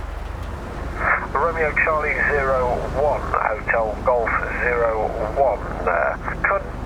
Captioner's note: radio